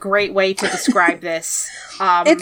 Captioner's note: laughs